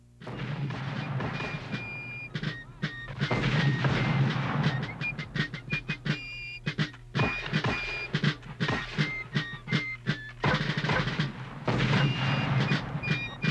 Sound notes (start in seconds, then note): 3.0 mortar fire booming; 7.1 musket fire popping; 10.8 mortar fire booming